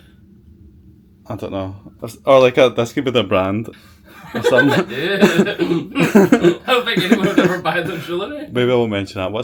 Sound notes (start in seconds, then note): 4.2 laughs